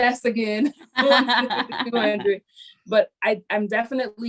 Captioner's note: laugh